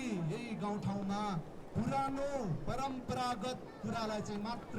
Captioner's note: muffled voice speaking through a PA